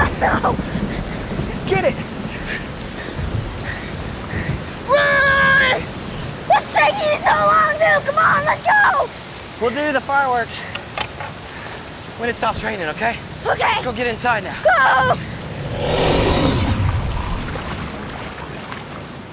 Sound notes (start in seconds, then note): 3.3 rain hisses; 16.1 spinosaurus bellows